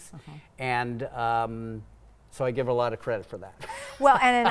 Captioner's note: laughing